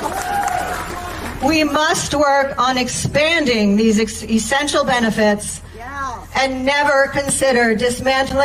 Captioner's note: applause